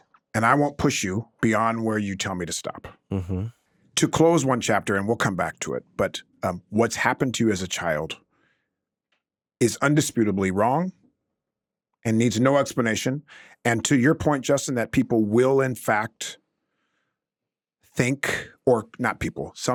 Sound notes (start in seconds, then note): none